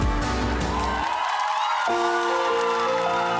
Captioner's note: crowd cheers, applauds